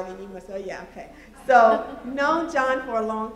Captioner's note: laughter